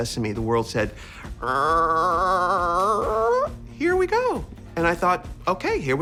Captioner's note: RuPaul makes a long creaking noise